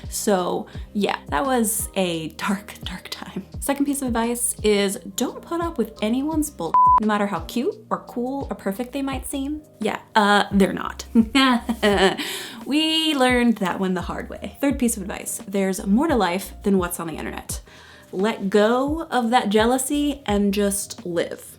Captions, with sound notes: So, yeah, that was a dark, dark time. Second piece of advice is don't put up with anyone's bull (beep). No matter how cute or cool or perfect they might seem. Yeah, they're not. (laughs) We learned that one the hard way. Third piece of advice, there's more to life than what's on the internet. Let go of that jealousy and just live.